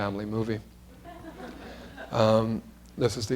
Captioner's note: laughter